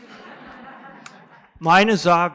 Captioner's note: laughter